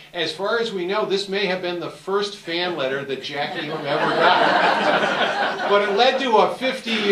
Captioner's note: audience Laughter